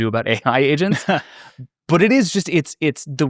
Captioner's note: chuckles